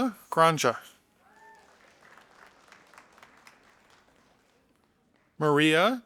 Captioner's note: audience applauding